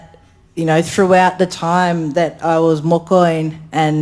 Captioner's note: speaks in foreign language